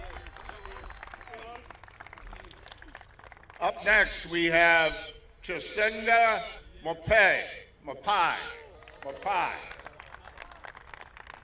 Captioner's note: applause